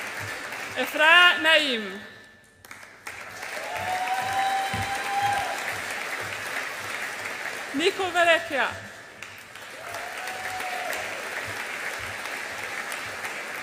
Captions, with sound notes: Ifraah Naeem. (AUDIENCE APPLAUDS AND CHEERS) Nico Verrecchia. (AUDIENCE APPLAUDS AND CHEERS)